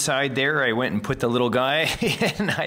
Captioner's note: laughs